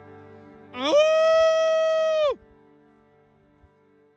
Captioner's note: is howling